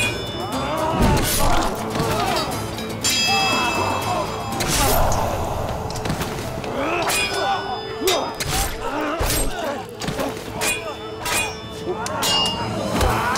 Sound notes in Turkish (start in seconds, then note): 0.0 Müzik - Hareketli; 3.4 Dövüş sesleri